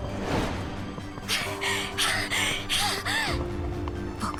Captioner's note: huff